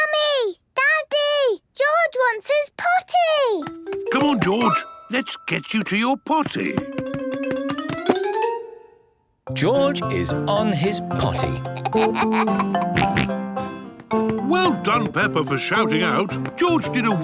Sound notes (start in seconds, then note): 11.7 giggles, snorts